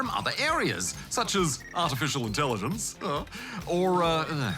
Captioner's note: chuckles